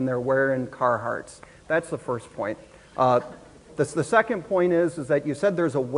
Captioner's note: audience murmurs